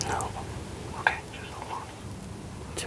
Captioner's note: whispering